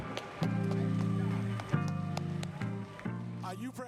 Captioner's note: applause